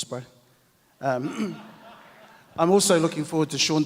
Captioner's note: audience laughs